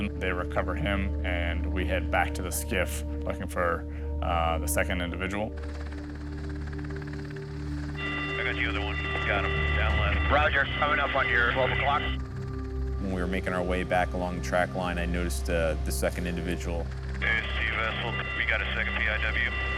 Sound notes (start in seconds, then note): 5.6 propellers; 7.9 beeping